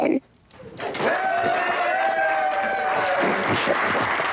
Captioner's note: cheers, applause